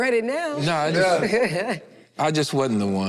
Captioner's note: group chuckles